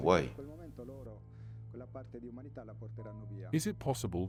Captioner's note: gentle music continues; speaking in foreign language